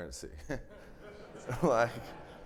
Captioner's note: everybody laughing